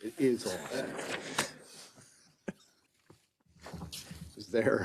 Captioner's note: members laughs